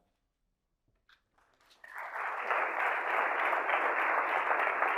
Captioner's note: audience applauding